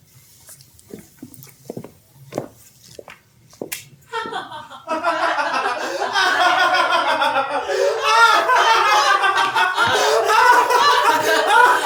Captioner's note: laughter